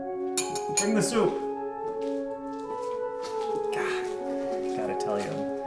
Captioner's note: tapping on the glass